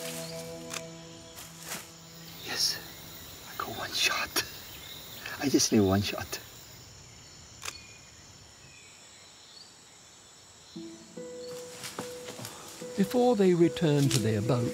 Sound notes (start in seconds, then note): 2.4 whispers; 7.6 camera clicks